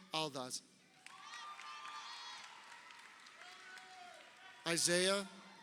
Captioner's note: crowd cheering